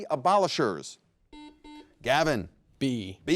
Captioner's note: buzzer rings